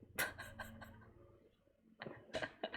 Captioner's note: laughs